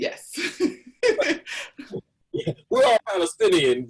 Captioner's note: laughs